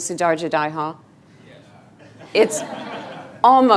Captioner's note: laughing